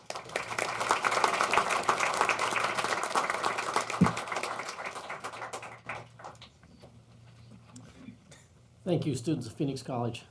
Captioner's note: applause